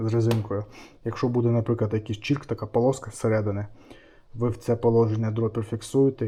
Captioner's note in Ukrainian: сопіння